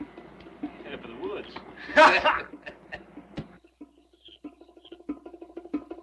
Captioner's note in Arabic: يضحك; موسيقى مشوقة